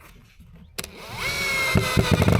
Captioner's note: drill whirring